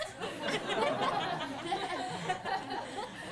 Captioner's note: class laughs